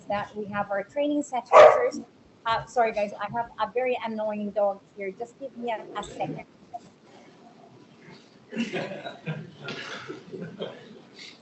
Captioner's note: dog barks